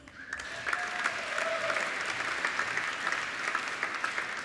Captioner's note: applauding